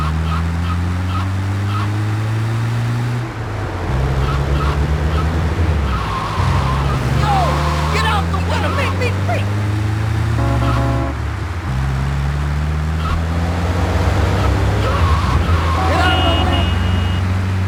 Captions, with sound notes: [Tires screeching] Get off the water!